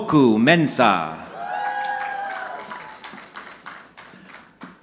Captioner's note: audience clapping